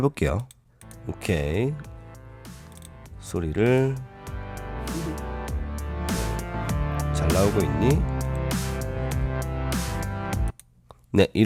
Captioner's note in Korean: 녹음된 소리